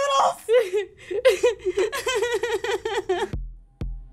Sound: sobbing

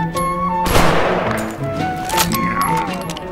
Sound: gun spam; gun spam and sniper's moaning

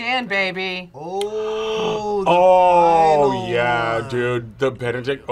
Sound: gasps

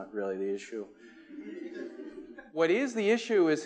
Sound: attendees laughing

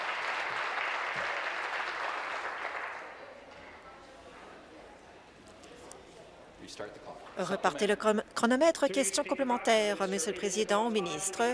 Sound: some Applause

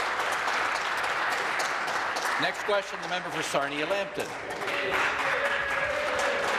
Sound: applause

